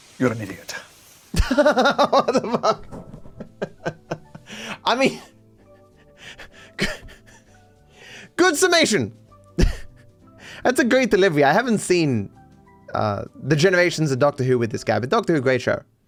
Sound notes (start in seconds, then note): 1.3 laughs